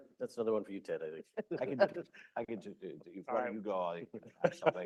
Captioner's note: laughter